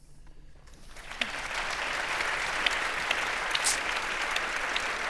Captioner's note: audience applauding